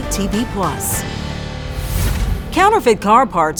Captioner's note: air whooshing